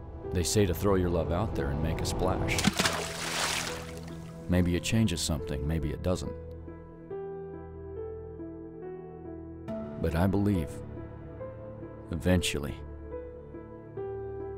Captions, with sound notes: They say to throw your love out there and make a splash. (splashing) Maybe it changes something, maybe it doesn't. But I believe, eventually,